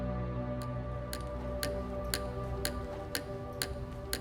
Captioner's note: quill tapping